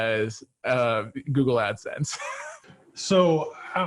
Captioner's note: laughs